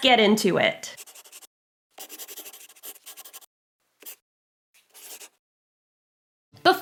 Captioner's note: the sound of a pen scratching. LOGO